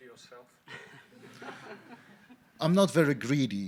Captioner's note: audience laughing